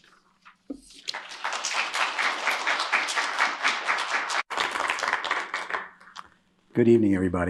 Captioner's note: applause